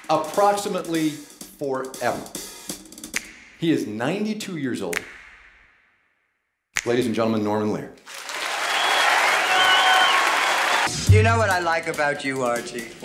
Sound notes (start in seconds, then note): 8.0 audience cheering and clapping